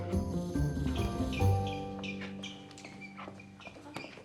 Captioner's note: shoes squeaking